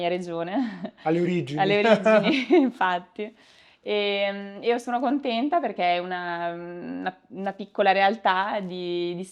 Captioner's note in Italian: risate